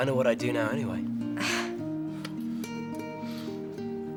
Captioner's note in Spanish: Ruby se burla